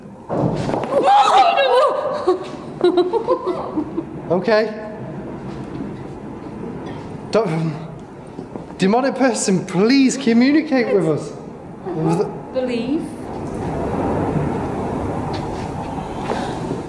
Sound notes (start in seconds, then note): 0.2 bangs; 0.9 exclaiming